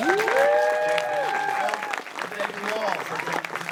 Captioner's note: crowd applauds